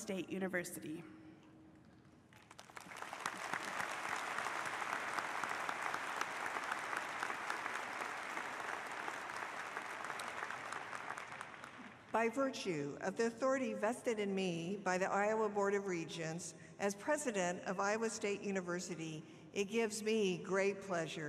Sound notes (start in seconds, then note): 5.8 applause